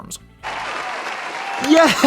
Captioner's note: applause